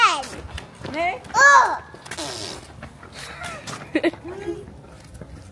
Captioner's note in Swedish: pruttljud